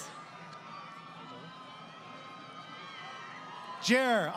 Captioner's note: crowd Cheering